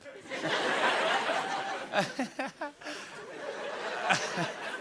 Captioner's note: laughter